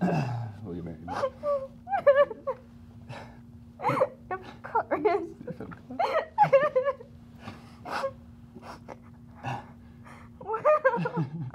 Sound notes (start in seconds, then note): 1.1 laugh/cries; 5.8 laugh/cries; 9.0 sniffles